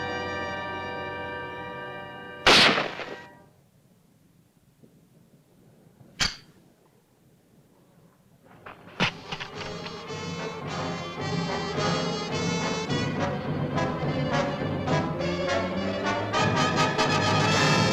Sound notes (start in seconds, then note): 0.0 gunshots; 2.4 gunshot; 6.1 click; 9.0 tense music